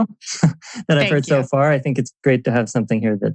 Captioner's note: laughs